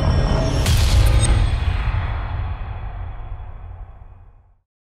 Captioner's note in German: impact